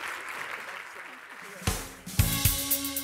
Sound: applause

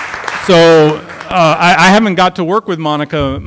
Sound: applause

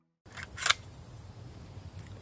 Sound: rifle bolt slides

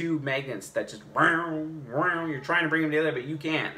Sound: magnetic hovering sounds

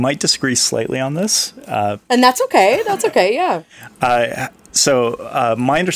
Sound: laughing

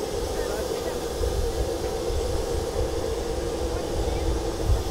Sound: plane engine

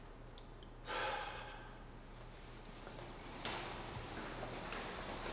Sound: Phil sighs

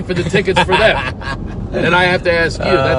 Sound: laughs

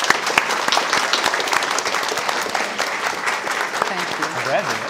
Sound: audience applauding

